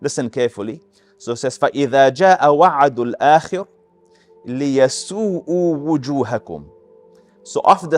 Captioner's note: Arabic